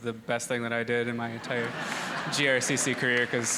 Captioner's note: audience laughing